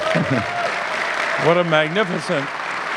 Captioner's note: audience clapping